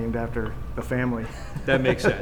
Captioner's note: laughs